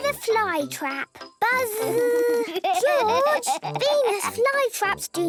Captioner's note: George laughing